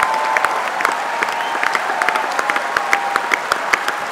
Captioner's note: applause